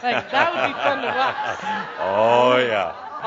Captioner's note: laughter; Adamus chuckles